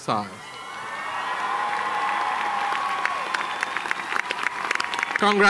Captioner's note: applause